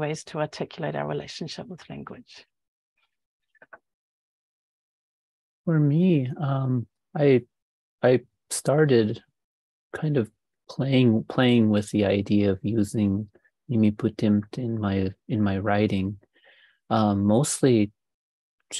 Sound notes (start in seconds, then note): 13.0 speaking indigenous language